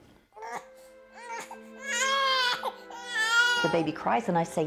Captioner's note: baby Crying